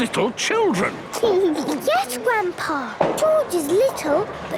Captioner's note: giggles